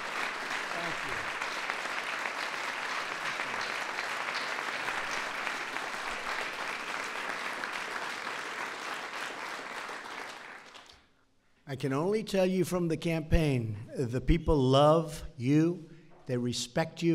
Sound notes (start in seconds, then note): 3.5 applause